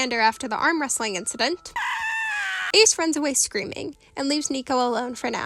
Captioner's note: Ace screaming in ch.1 ep.2